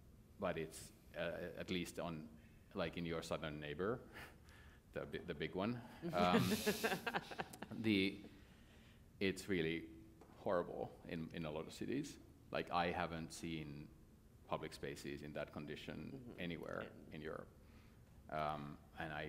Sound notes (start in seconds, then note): 6.0 laughter